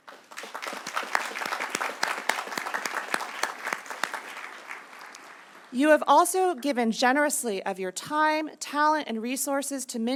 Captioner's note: applause